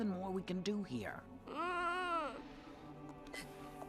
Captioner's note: Doogal cries